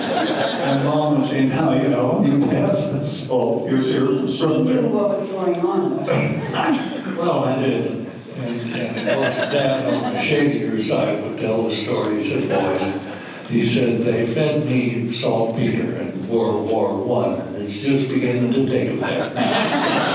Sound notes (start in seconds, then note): 0.0 audience laughter; 8.4 laughter; 19.0 audience laughter